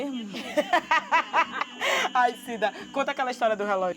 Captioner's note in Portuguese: risos